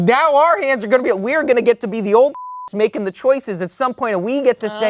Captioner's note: beep